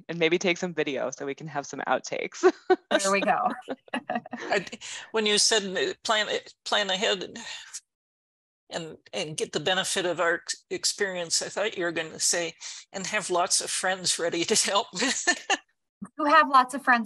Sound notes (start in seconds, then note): 2.4 laugh; 14.4 laugh